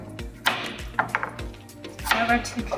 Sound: chopping

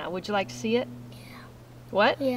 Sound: whispers

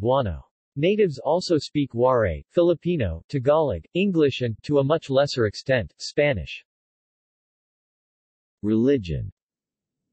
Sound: Tagalog

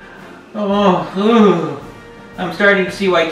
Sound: groans

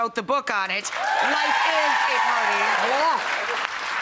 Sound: crowd cheering

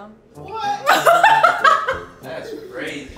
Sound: laughing

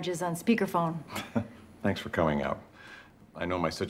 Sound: chuckles

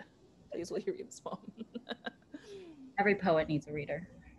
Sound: laughter

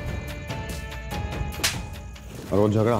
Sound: slapping

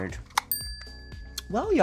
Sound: chime dinging

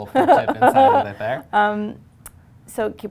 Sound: laughs

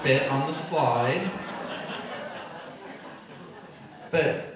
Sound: audience laughing

